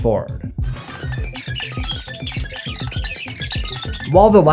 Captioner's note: fast forward sound